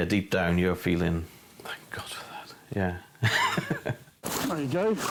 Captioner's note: chuckles